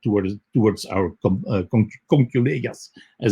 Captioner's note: speaks in foreign language